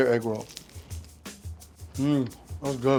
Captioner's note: egg roll crunching